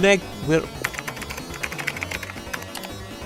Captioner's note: keyboard Typing